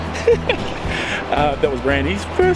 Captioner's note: laughs